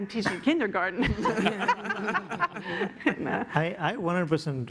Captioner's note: laughter